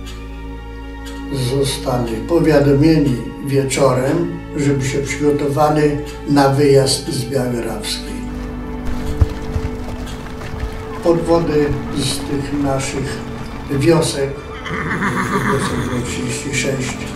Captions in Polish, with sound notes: zostali powiadomieni wieczorem, żeby się przygotowali na wyjazd z Białej Rawskiej. [odgłosy kroków] Podwody z tych naszych wiosek… [odgłosy konia nakładają się na wypowiedź]